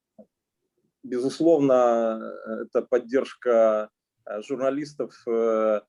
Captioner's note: speaking Russian language